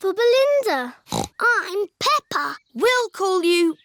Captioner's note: snorts